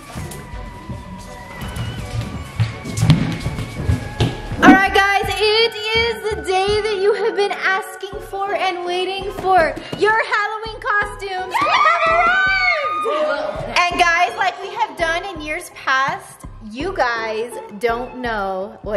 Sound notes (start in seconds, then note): 11.5 cheering